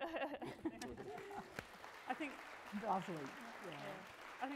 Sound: crowd applauds

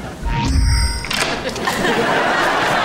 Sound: door locking

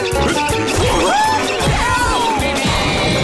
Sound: grunting; screaming

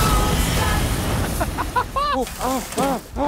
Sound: laughing

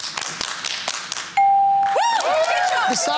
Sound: cheering

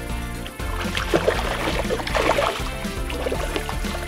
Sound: water splashing

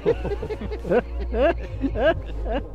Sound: laughing

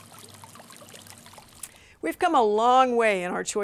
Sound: water gently trickling in fountain

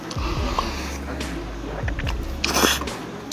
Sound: taking a breathe

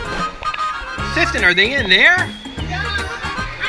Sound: voiceover

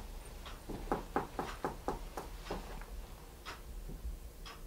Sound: knocks on wall

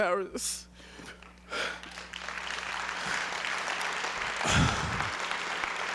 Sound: applause

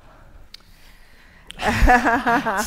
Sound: laughter

